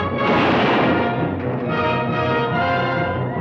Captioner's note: dramatic orchestral music; gun fires